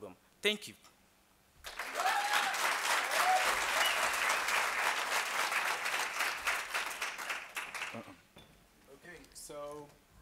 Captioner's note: applause